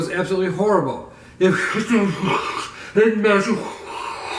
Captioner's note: muffled voice